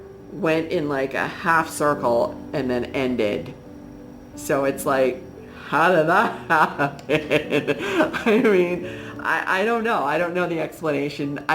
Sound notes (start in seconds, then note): 6.4 laughs